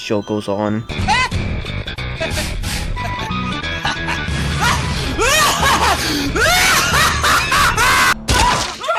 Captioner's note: insane laughing